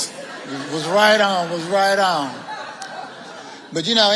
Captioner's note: audience laughing